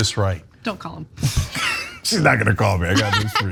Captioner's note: laugh